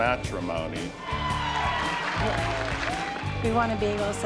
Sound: cheers

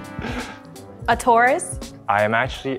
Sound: laughs; bull moos

